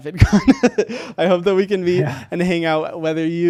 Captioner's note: laughs